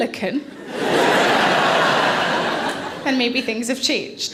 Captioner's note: audience laughing